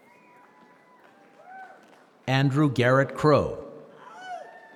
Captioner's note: applause